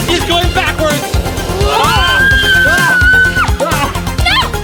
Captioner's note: screaming